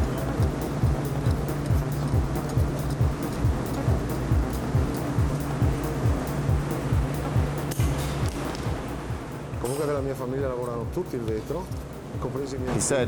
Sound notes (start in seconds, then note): 0.9 shears snipping; 9.8 speaking foreign language